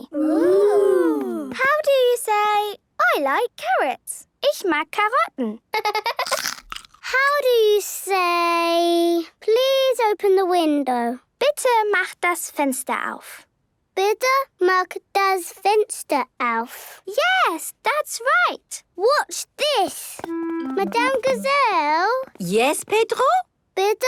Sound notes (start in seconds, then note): 5.7 laughter